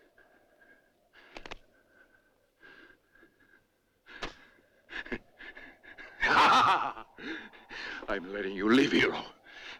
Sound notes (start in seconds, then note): 3.9 breathes heavily; 5.9 laughs